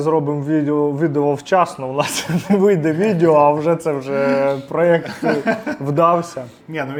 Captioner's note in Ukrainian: сміх